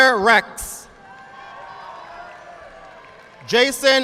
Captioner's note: audience applauding